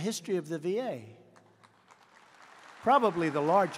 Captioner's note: applause